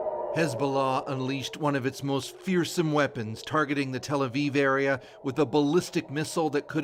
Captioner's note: sirens